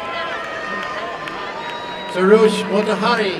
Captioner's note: applause and cheering